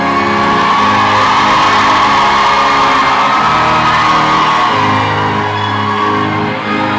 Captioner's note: lively crowd applause and cheering; organ playing loudly